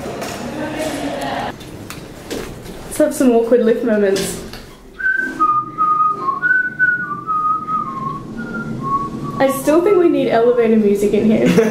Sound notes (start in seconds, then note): 4.9 whistles